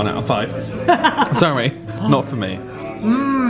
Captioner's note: laughs